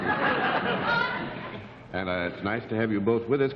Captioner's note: laughter